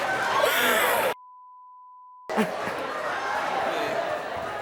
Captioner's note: sobbing